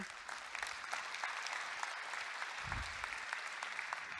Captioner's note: audience applauding